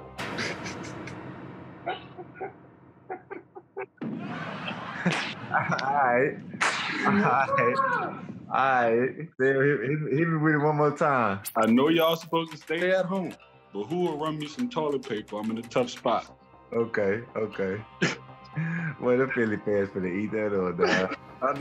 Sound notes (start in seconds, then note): 0.3 laughing; 3.0 laugh track; 18.0 laughs